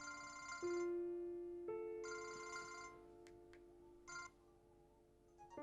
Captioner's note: gentle music; phone ringing; phone chimes